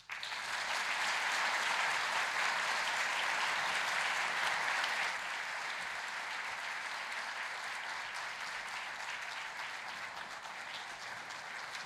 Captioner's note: applause